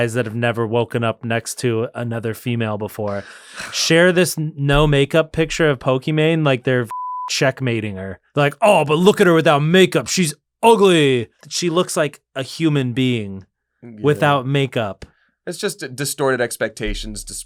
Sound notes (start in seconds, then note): 6.9 beep